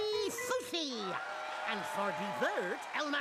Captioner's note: audience cheering